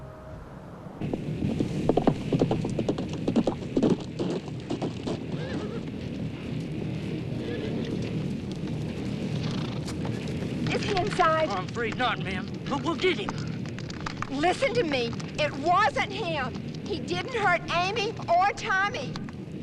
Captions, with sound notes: (hooves clomping rapidly) (fire roaring) (horse whinnies) - Is he inside? - I'm afraid not, ma'am, but we'll get him. - Listen to me! It wasn't him. He didn't hurt Amy or Tommy.